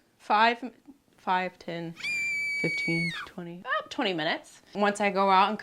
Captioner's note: horror scream